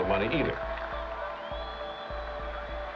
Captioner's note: crowd cheering